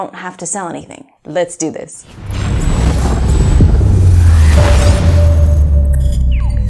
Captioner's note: roar sounds